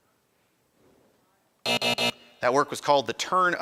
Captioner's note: end time buzzer rings